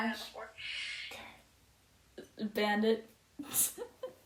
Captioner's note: laughs